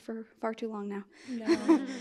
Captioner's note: laughs